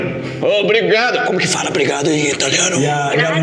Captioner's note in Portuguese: sussurrando